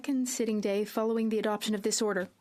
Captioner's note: speaking French